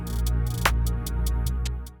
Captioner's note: robotic sound